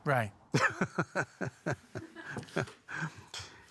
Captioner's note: laughs